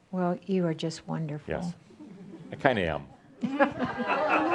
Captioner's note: laughter